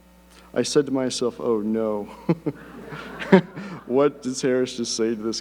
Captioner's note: laughs